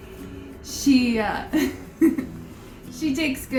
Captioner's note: laughs